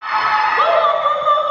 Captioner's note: cheering